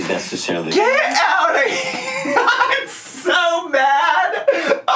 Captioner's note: laughs